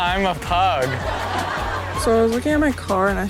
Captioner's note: audience laughs